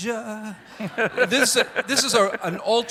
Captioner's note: congregation laughing